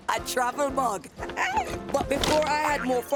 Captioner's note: laughing